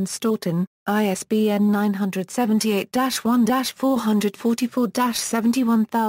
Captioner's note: Italian